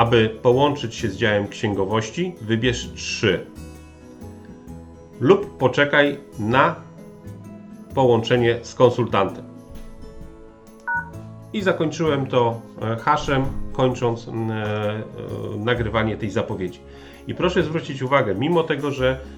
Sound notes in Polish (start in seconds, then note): 10.8 bip